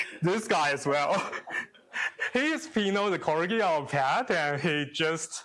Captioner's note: chuckles